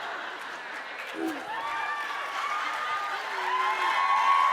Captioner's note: audience laughing; audience cheering